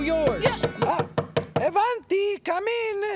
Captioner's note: knock on door